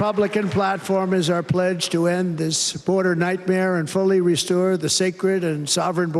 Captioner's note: cheers and applause